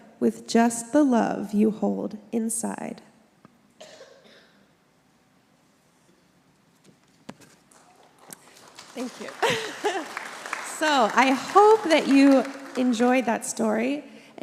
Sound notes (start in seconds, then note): 7.7 congregation applauds; 7.8 laughs